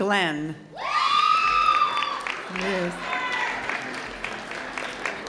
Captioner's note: audience cheering loudly